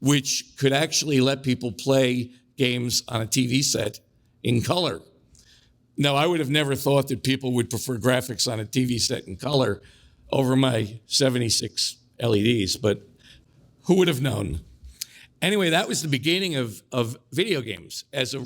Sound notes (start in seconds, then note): none